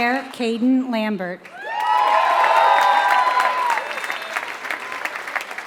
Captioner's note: applause